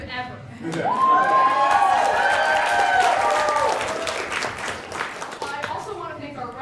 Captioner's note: audience cheering for themself